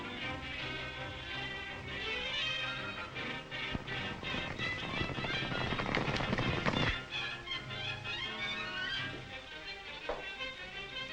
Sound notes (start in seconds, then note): 4.2 horses galloping; 7.3 exciting music continues